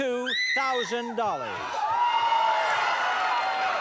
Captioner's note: cheers and applause